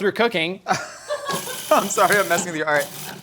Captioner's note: laughing